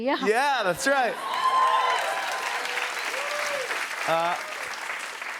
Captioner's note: cheers and applause